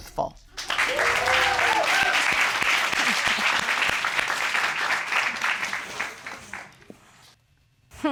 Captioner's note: applause